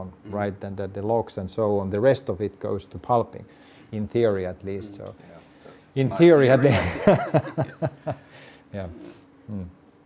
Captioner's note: laughs